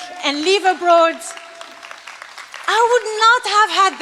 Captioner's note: applause